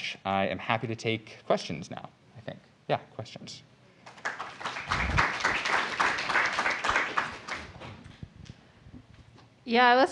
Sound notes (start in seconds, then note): 4.0 applause